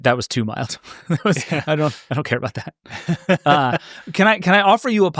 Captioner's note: chuckles